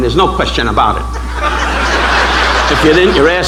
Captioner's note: audience laughing